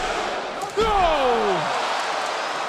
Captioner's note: crowd counts